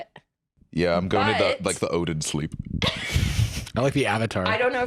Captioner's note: laughs